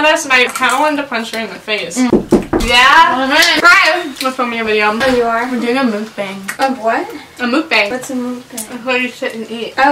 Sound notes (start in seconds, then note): 2.1 knock on the door